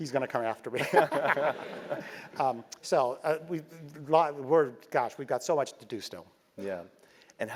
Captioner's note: laugh